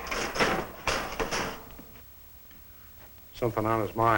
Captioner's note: cluttering